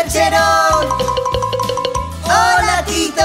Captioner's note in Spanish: Sonido de campana